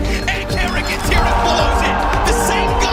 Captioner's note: people cheering